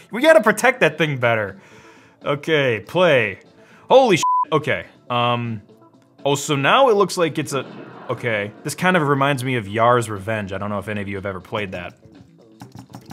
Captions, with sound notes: We gotta protect that thing better. Okay, play. Holy (beep), okay. Oh, so now it looks like it's a-- (exploding) Okay. This kinda reminds me of Yars' Revenge, I don't know if any of you have ever played that.